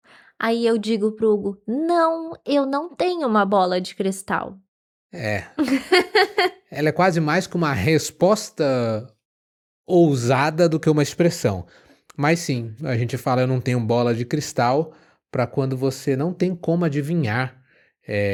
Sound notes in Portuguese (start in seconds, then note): 5.6 risadas